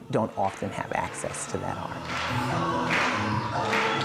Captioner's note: gospel music plays; people clapping in rhythm